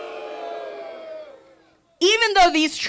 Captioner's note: group booing